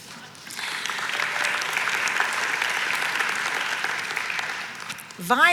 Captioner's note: audience applauds